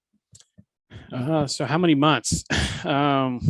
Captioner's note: laughs